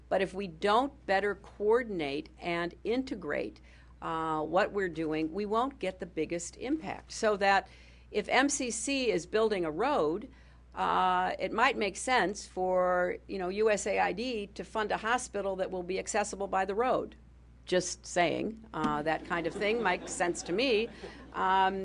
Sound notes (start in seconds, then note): 19.2 laughter